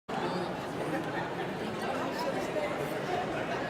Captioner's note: audience talking